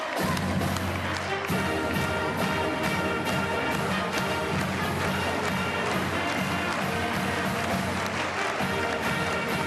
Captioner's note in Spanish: Aplausos